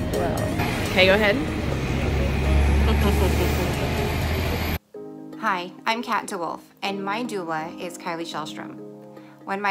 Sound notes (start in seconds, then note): 2.8 chuckles